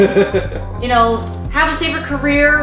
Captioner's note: laughter